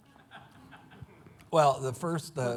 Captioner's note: laughing